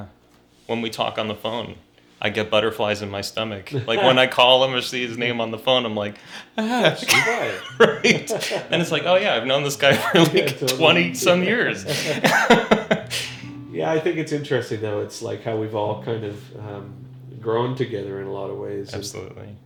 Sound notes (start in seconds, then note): 8.1 laughs